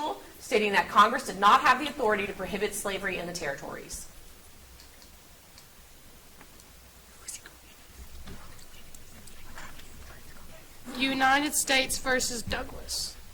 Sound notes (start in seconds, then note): 7.2 contestants whisper